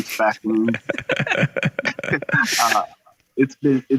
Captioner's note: laughter